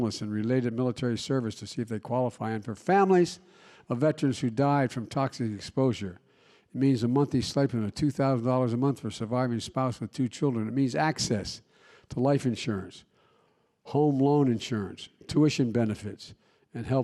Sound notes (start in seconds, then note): none